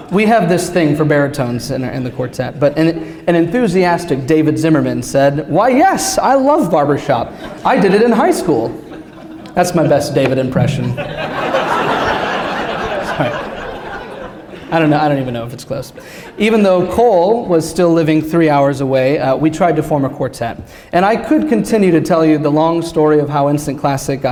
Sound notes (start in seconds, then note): 10.5 laughter